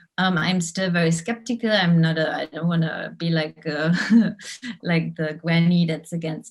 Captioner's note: giggles